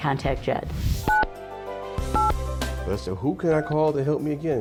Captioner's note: phone beeps